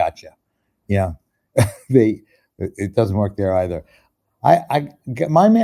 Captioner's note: chuckles